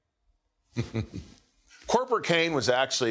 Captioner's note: chuckles